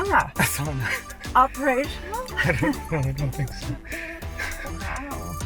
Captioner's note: laughing